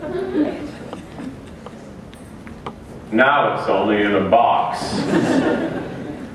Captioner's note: laughter